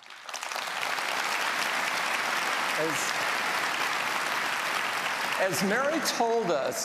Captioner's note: applause